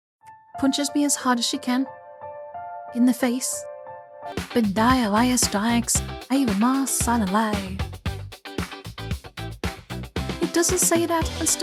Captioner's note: american Accent